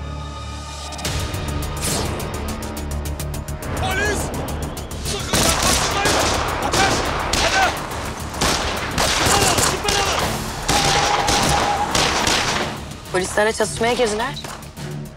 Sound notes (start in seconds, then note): 1.7 tension effect; 5.9 gunshots; 10.0 gunshots